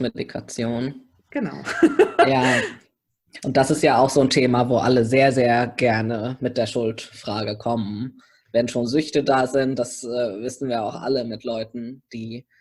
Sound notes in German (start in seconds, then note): 1.6 lacht